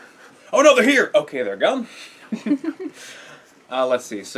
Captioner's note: laugh